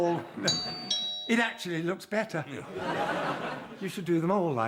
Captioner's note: doorbell